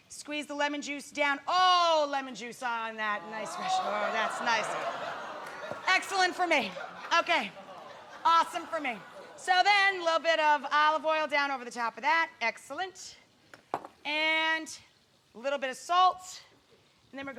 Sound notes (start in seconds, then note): 3.5 audience cheer